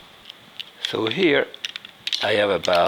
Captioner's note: shells clicking